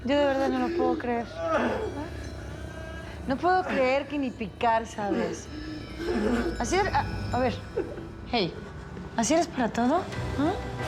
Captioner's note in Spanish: llanto de gastón